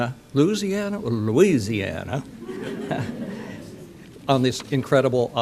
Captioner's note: audience laughter; chuckle